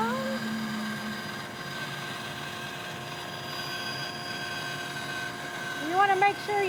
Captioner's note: sawing